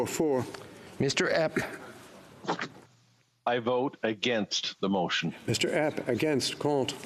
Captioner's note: speaking FRENCH